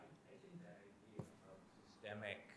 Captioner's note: faintly speaking